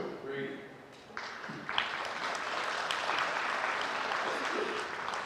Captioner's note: audience clapping